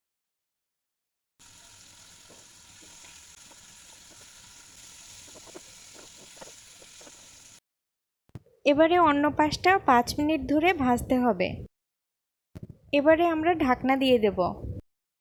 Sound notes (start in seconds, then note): 1.4 cooking sound